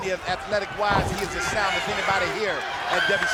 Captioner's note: blows thudding